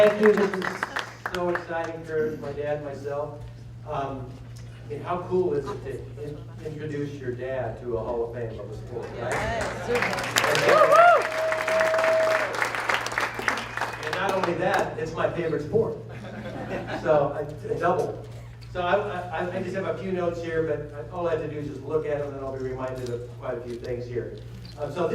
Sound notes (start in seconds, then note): 9.2 applause; 16.0 laughter